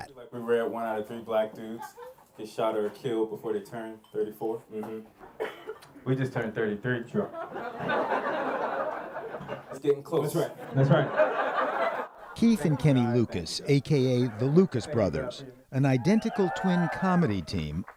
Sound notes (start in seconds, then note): 7.1 laughter; 12.1 laughter